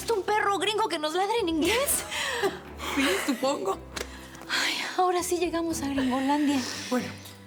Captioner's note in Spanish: risas